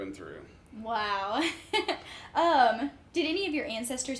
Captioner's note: chuckles